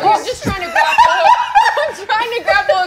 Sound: cackling

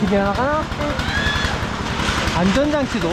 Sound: screaming

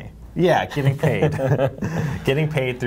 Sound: laughs

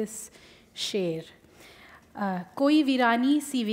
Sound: speaking Urdu

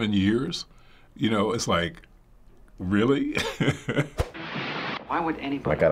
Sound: chuckles

